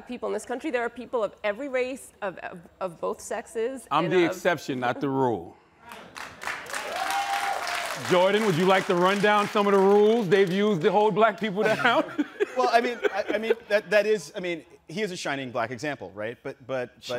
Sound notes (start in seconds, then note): 6.4 audience cheers; 11.5 Charlamagne laughs